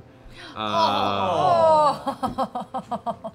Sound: groans

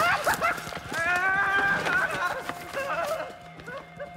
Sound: Jonathan laughing hysterically; screaming

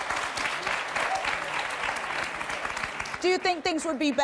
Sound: audience applauds

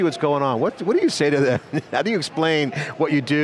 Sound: laughs

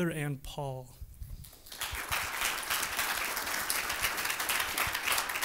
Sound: applause

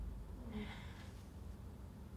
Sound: gasps

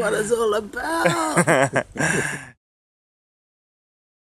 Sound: laughter

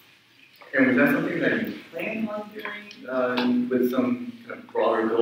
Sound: speaks away from mic

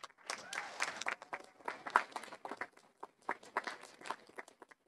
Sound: audience applauding

